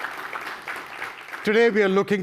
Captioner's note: audience applause